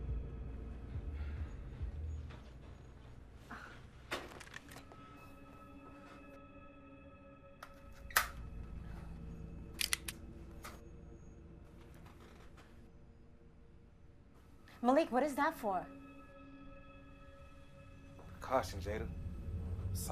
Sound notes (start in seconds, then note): 0.5 soft tense music; 9.8 gun clicks